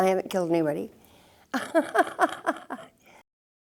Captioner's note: laughs